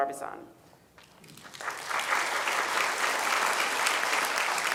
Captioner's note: applause